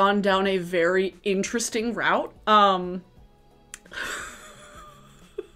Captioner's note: laughing